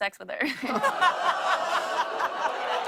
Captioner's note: audience ohhs